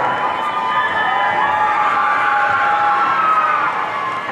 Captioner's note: audience cheering